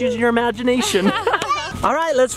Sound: laughter

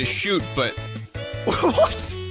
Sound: laughs

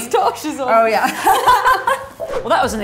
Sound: laughs

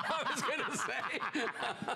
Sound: laughter

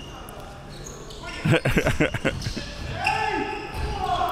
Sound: laughing

